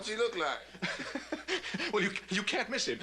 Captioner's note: laughing